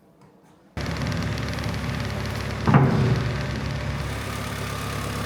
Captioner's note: forklift rumbling